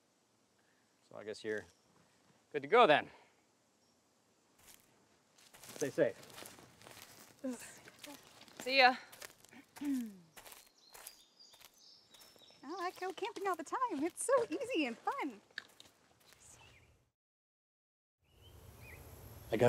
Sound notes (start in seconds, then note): 9.8 Margo clears throat; 9.9 birds chirping; 18.2 birds chirping